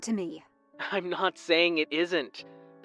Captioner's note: phone vo